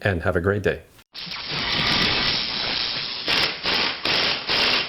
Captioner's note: electric sound